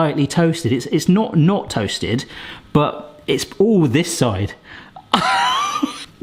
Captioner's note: laughs